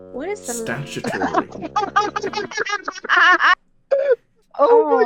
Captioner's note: laughter